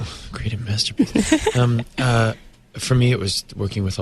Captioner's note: interviewer laughs